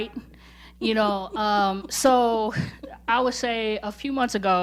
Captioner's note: laughing